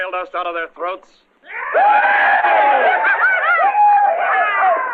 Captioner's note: cheering